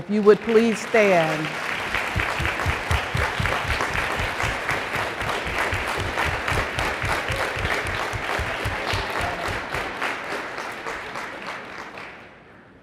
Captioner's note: applause